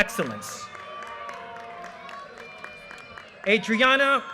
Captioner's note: audience cheers and applause